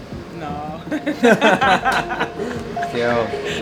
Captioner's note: laughter